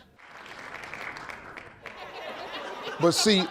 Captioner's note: audience claps